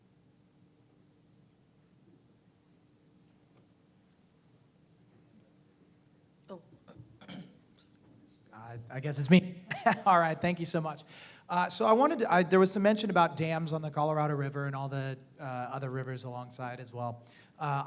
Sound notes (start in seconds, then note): 9.7 laugh